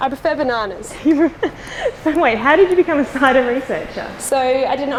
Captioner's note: laughing